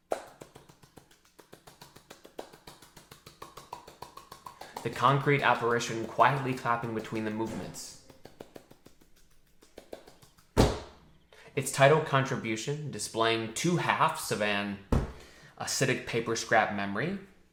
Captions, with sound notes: (clapping) The concrete apparition quietly clapping between the movements. (clapping) (hands slum) It's tidal contribution displaying two halves of an acidic paper-scrap memory